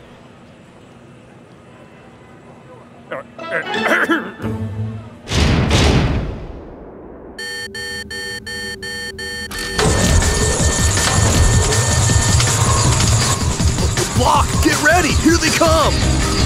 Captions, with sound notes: (clears throat) (alarm beeping) - Blok, get ready here they come.